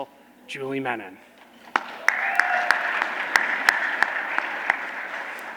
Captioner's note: applause